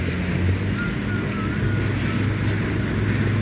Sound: boat engine revving and man whistling

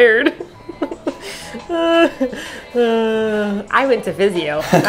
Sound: laughing

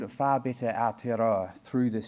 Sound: speaking in foreign language

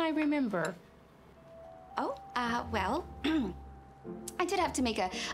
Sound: clears throat

